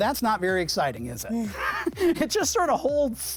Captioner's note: chuckling